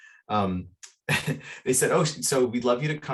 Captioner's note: chuckles